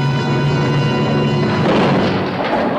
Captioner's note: boat crashing